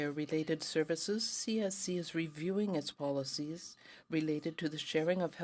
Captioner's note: speaking French